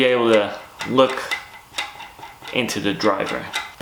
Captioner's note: metal nut clanking